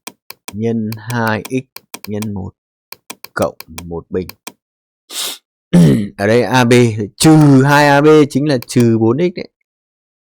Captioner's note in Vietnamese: khịt mũi